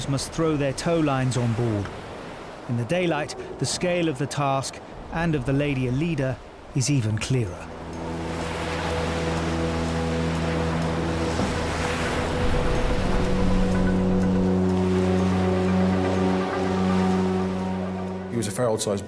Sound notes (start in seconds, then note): 8.7 tense music; 8.7 waves lapping; 15.5 tense music continues